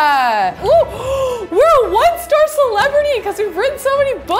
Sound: gasps

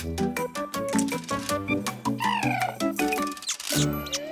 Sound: purring

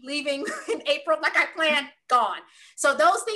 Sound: laugh

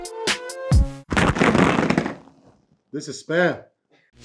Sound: cans hitting the counter

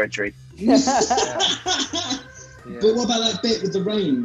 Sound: laughing

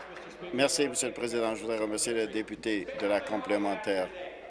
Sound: applause

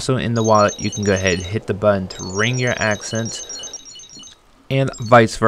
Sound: wallet rings; wallet rings

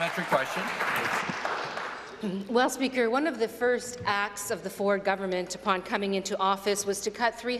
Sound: applause

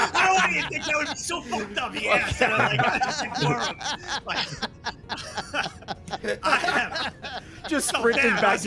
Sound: laughs; laughs

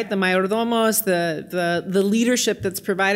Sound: speaking in foreign language

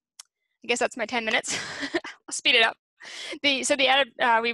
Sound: chuckles

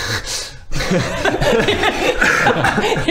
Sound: mocking laugh

